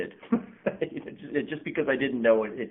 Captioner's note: chuckles